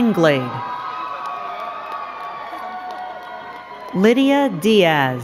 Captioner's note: crowd cheering and clapping